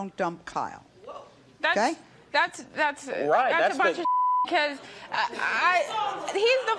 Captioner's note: beeps